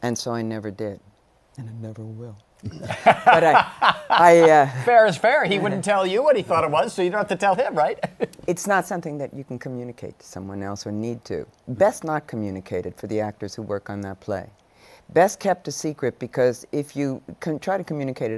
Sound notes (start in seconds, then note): 2.6 laughs